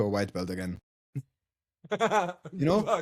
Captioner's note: laughs